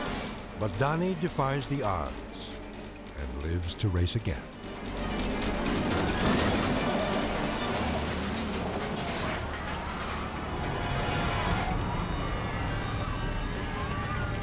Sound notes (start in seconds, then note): 5.4 car clashes; 10.3 dramatic music